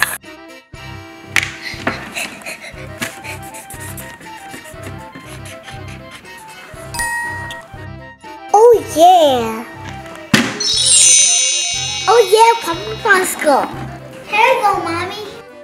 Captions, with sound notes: (comical music) (marker squeaks) (shapes ding) Oh yeah! (wand chimes) Oh yeah, purple Popsicle, here you go Mommy.